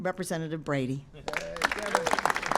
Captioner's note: applause